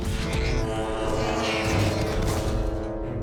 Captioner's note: grunting